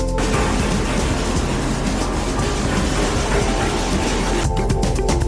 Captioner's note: bristles scraping